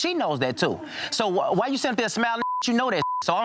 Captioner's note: beep